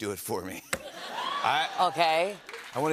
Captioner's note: laughter